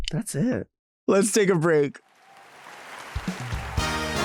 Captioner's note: audience applauding; lively music